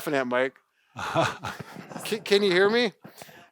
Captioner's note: laughs